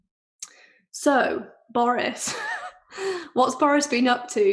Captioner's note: chuckles